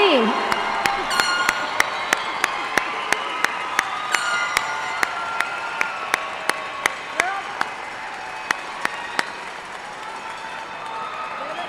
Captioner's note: cheers and applause